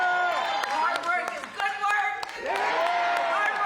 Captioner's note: cheering